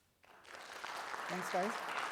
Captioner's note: attendees applauding